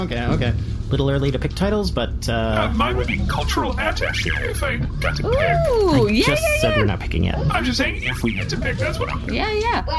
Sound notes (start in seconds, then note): 6.4 excited